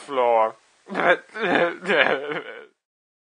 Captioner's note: Jonathan sobbing